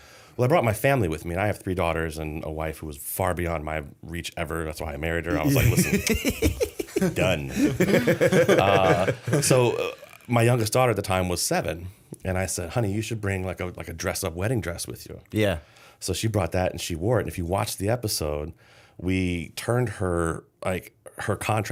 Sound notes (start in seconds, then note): 5.4 laughter